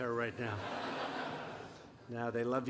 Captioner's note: laughter